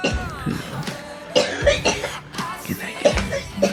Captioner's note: coughing